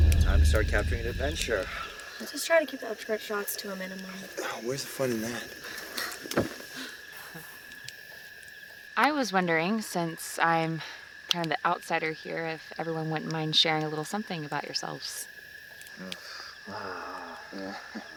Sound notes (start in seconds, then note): 6.2 crickets Chirping; 16.6 men Unhappy Grunting